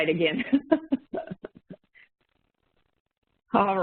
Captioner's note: laughing